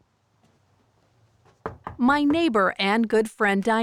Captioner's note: knocking on door